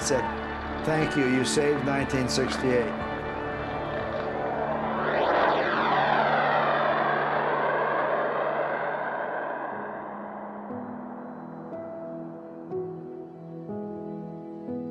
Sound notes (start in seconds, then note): 4.2 jet engines roaring overhead